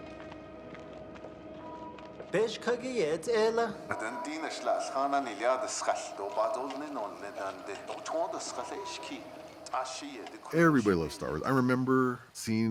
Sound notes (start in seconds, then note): 2.8 speaking Navajo